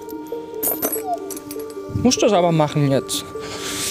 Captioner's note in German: Winseln